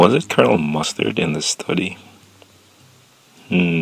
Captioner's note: pause